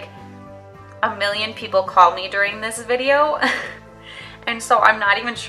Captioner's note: laughs